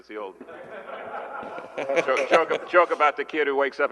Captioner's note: laughter